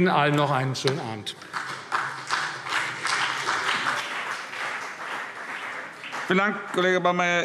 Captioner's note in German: Vereinzelter Beifall CDU und BÜNDNIS 90/DIE GRÜNEN